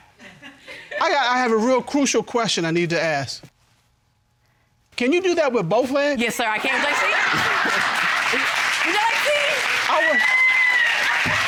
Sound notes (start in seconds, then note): 7.3 laughs